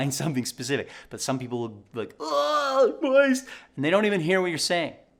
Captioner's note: groaning